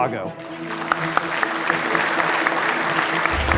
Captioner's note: applause; upbeat music